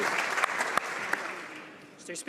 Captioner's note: some Applause